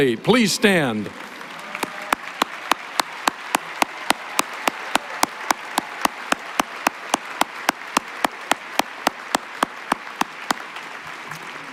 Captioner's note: applause